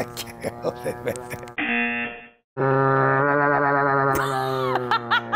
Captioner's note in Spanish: gruñido del perro distorsionado; se ríe; gruñido del perro distorsionado; zumbador; risas